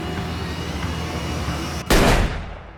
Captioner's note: gun fires